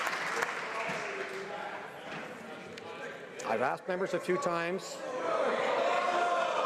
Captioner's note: some Applause